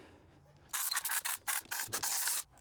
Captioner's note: drilling